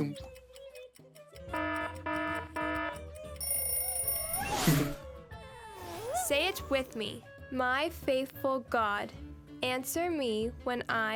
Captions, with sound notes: (alarm blaring) (alarm ringing) Say it with me.